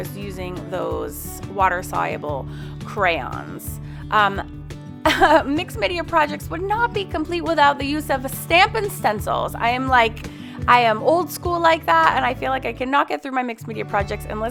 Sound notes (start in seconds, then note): 5.1 laughs